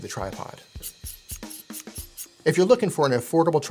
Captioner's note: tripod squeaks